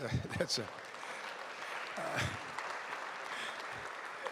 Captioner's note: applause